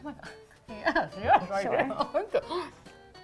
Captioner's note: talking gibberish